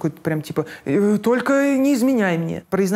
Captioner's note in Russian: нервным голосом